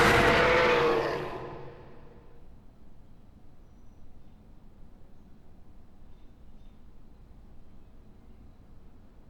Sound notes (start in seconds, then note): 2.0 birds chirping